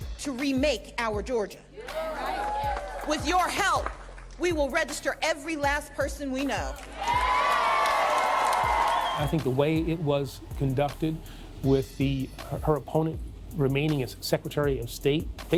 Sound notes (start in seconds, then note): 6.7 applause